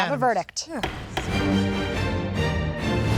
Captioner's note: gavel banging sound